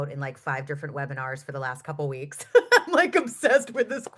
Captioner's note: laughs